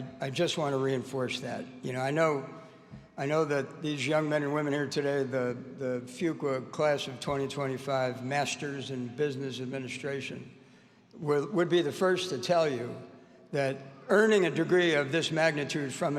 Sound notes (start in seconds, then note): none